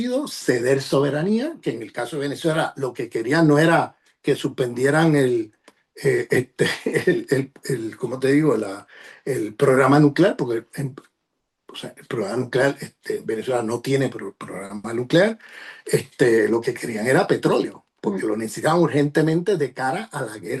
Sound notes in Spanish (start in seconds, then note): 10.5 carraspeo